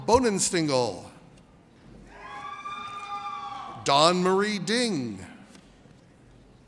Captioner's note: audience cheers